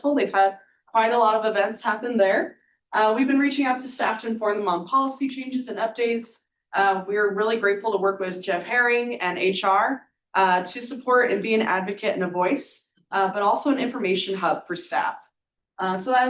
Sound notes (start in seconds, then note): none